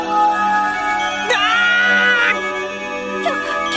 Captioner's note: pained cry